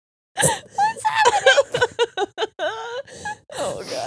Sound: laughing

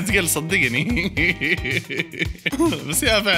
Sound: laughter

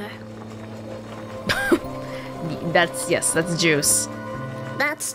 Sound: scoffs

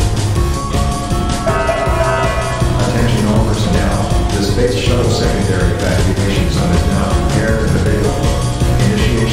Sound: announcement Chime

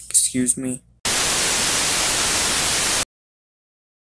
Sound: TV Static

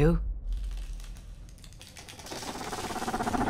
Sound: creaking; growling

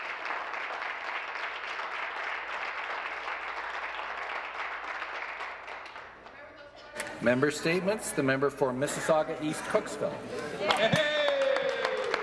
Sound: applause

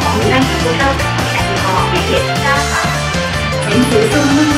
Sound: Cantonese; Mandarin; Cantonese

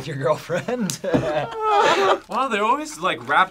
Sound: group laughs

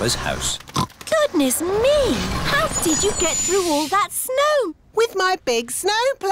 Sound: oinks

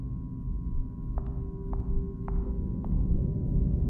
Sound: footsteps

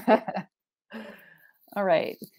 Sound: chuckle

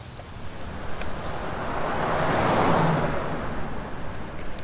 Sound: car rushing

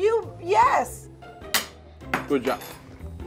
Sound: fork clatters on the ground

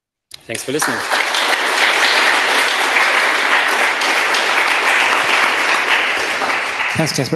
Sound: applause

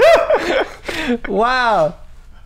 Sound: laughter

